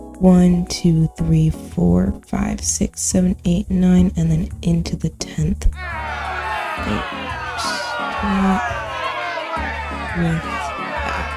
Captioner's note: booing sound effect